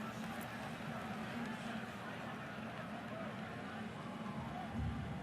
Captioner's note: onfield chatter